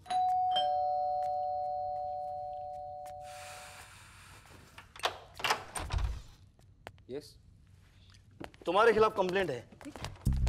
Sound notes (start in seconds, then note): 0.0 doorbell rings; 4.8 door opens